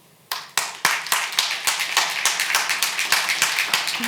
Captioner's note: audience applauding